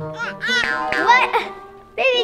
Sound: baby babbles

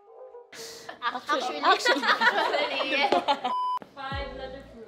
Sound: laughs

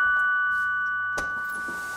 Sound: ringing

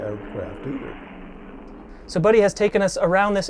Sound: plane engine roaring

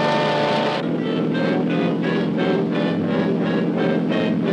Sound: motor roaring

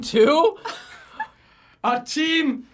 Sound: laughs

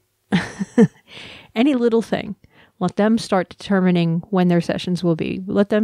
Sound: laugh

